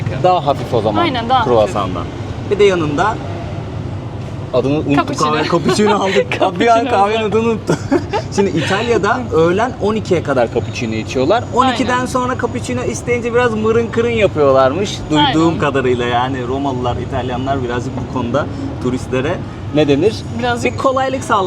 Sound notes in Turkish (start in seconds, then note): 8.7 kahkaha